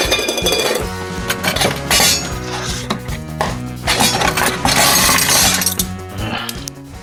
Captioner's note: another thwarted "ugh!"